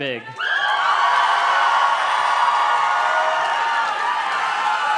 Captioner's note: audience cheers and claps